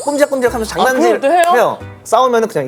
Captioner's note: happily teasing